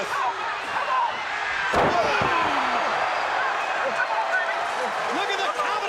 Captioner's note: crowd cheering